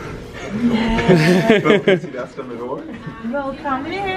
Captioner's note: laughs